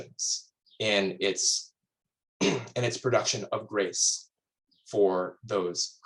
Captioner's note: clears throat